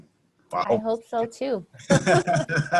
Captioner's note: laughs